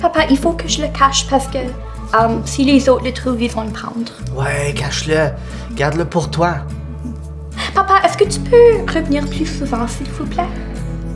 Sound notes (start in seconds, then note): none